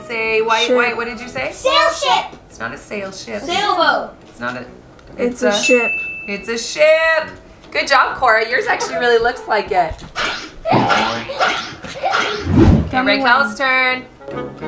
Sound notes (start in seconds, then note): 3.6 children in Unison; 14.2 playful music